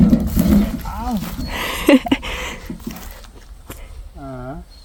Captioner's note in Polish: śmiech